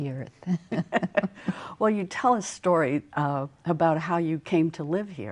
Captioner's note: laughter